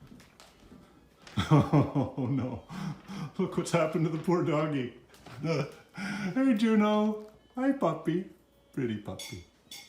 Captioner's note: laughing